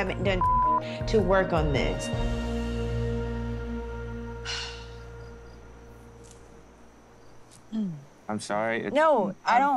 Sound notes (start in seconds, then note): 4.4 sighs; 7.6 clears throat